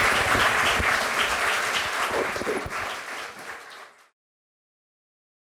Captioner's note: applause